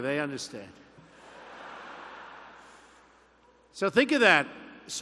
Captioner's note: laughter